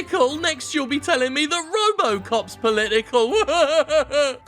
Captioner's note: mocking